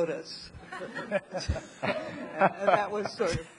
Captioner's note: audience laughing